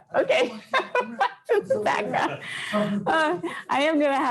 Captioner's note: laughs